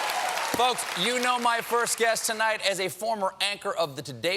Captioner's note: cheers and applause